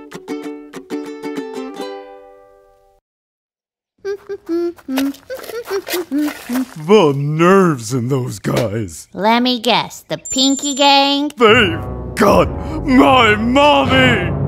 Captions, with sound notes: [humming] The nerves in those guys. Let me guess, the Pinky Gang? (SOBBING) They've got my Mommy.